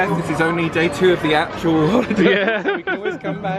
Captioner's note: laughs